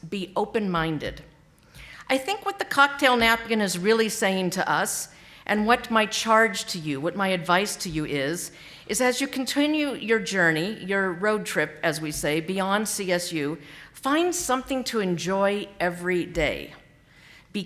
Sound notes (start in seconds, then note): none